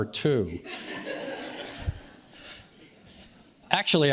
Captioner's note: audience laughs